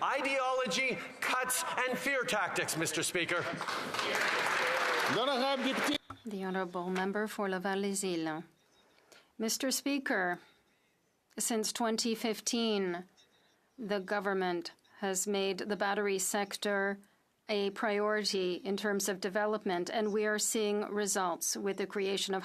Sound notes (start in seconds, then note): 9.4 speaking French